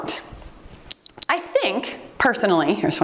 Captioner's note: timer beeps